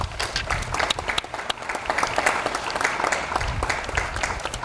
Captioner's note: audience applauds